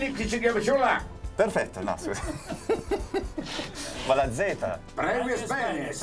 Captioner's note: laughter